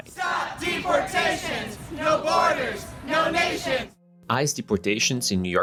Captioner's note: chanting